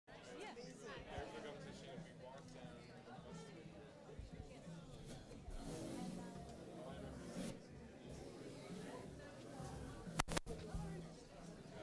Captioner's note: crowd noise